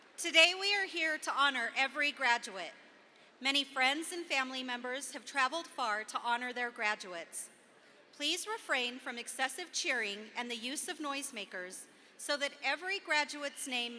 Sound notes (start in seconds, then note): none